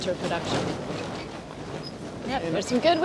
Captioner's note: metal rattling